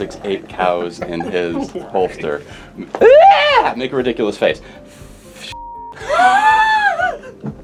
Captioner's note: shouts